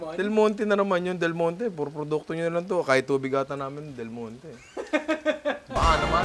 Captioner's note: laughs